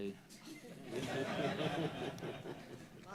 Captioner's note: laughter